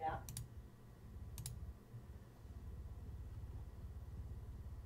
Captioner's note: mouse clicking